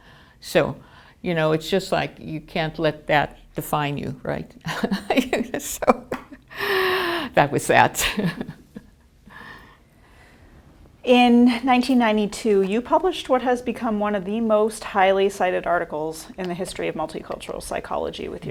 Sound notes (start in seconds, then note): 4.9 laughter